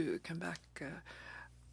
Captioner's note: speaking French